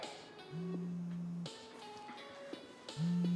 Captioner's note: cellphone vibrating